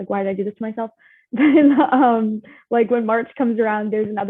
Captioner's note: chuckles